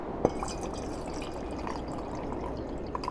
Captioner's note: whiskey pours